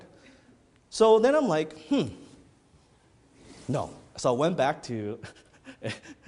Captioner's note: laughs